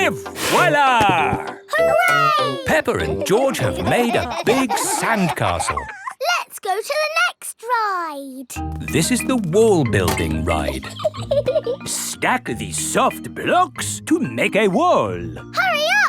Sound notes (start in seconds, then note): 1.8 laughing; 10.4 laughs